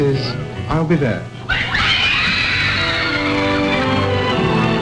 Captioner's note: screams and applause